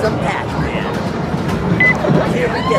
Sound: machine beeps

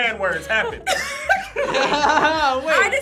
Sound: group laughs

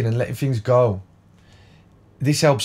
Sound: silence

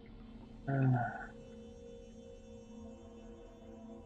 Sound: sighs

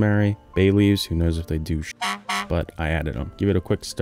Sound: horn honks

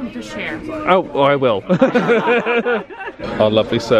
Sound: laughs

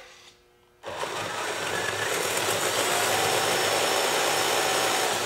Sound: RC truck whirring

